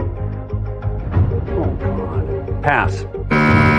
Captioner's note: quietly; buzzer sounds